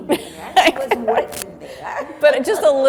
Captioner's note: laughing